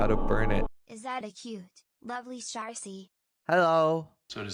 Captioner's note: text-to-speech from chat